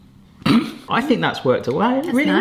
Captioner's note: laughing